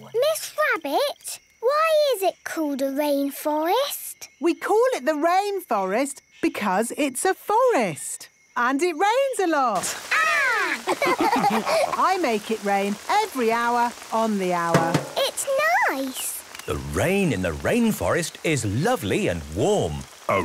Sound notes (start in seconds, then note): 10.7 all laughing; 14.7 taps